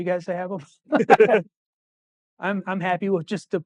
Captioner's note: laughing